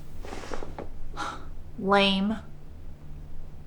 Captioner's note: scoffs